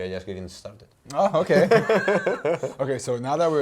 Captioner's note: laughs; chuckles